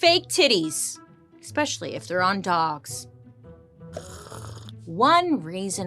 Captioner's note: slurps